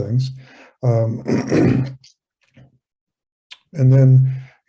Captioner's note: clears throat